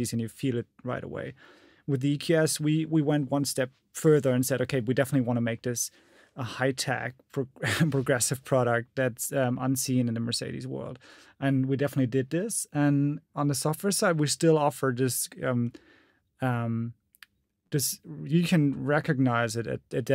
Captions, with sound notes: but it's still a Mercedes, and you feel it right away. With the EQS, we went one step further and said, "Okay, we definitely wanna make this, a high-tech progressive product.(chuckles) That's unseen in the Mercedes world." And we definitely did this. And on the software side, we still offer just you can recognize it,